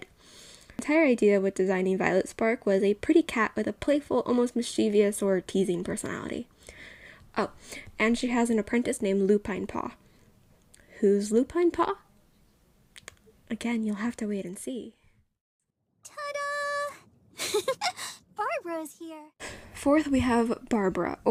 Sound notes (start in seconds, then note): 17.4 giggles